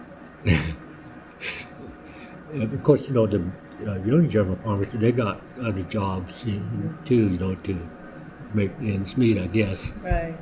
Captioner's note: laughs